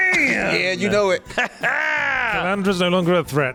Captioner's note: laughter